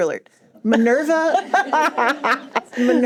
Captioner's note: laughter